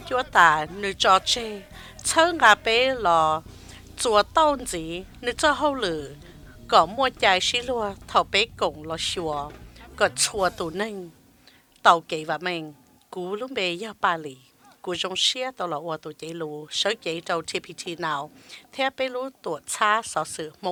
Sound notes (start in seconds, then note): 13.7 cheers and applause